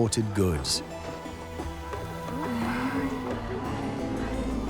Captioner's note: indistinct chatter